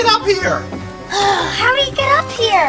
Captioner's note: sighs